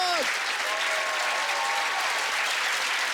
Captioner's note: cheering and applause